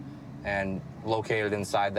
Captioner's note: none